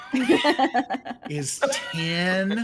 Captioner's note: characters laugh